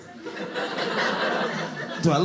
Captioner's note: audience laughing